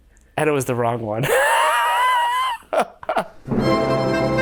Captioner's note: he laughs